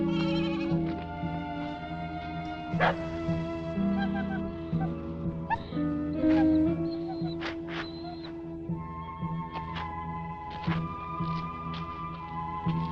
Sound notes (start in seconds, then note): 2.8 dog barking; 5.4 dog whimpering; 8.5 pensive music